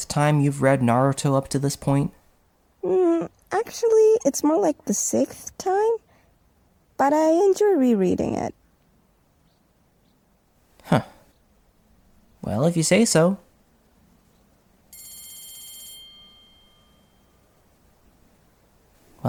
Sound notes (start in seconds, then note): 14.9 class bell rings